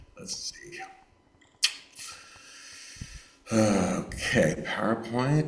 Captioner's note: clicks teeth